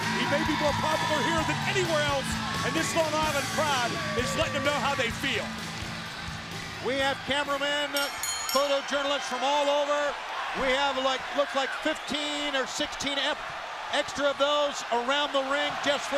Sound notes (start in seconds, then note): 7.8 bell ringing